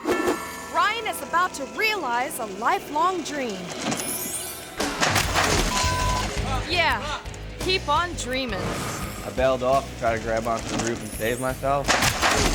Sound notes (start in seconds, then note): 4.6 thuds